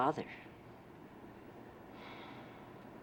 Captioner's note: sighs